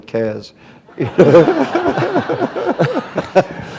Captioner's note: laughter